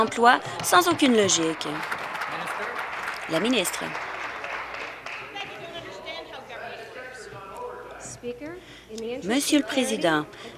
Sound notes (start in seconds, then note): 4.4 some Applause